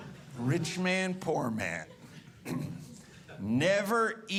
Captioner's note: audience laughing